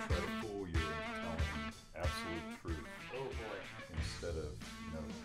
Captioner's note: both chattering